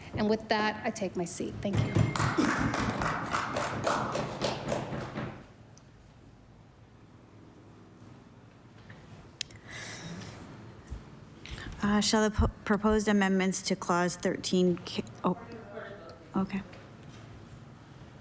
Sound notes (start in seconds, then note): 2.0 applause